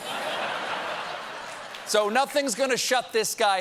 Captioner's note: laughter